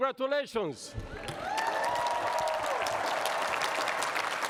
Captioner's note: cheers and applause